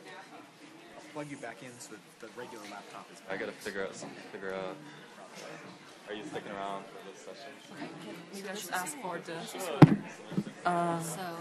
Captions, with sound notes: I'll plug you back in so the regular laptop is... (participants murmuring)